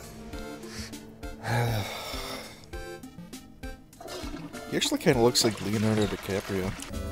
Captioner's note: sigh